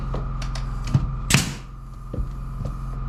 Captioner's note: knocking